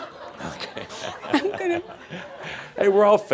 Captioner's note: laughter